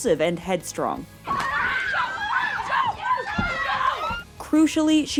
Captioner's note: screaming